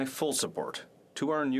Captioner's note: speaking French